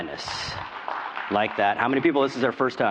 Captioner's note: applause